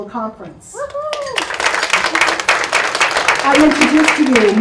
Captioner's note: audience claps